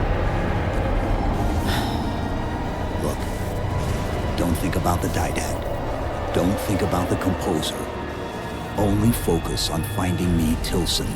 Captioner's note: sigh